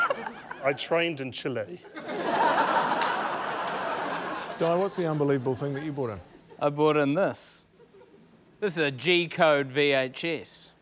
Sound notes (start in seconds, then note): 1.8 laughter